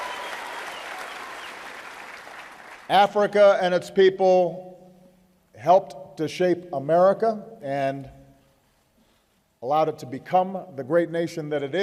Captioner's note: applause